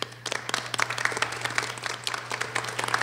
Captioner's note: applause